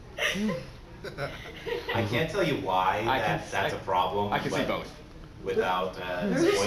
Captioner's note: laughter